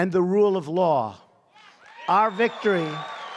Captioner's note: applause